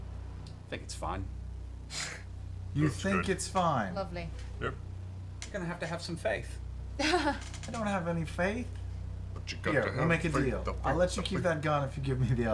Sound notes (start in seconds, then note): 2.0 scoffs